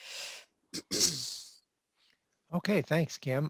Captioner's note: clears throat